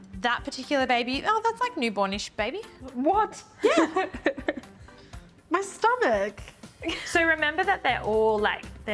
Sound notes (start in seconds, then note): 3.6 laughs nervously